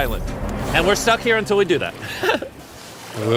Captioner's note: chuckles